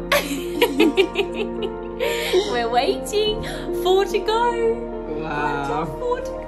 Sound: laughs loudly

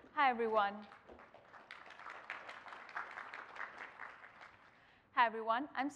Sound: applause

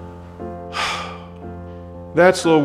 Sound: sighs

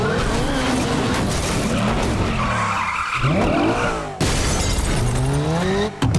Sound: crashing, tires screeching

